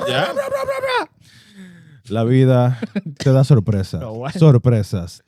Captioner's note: imitating Drumming; speaking In Foreign Language